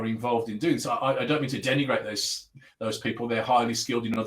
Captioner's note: abbreviated speech